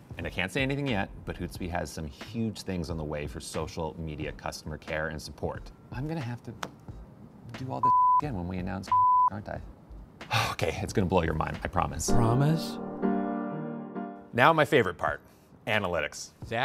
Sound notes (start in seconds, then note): 7.8 beeping; 10.4 sighs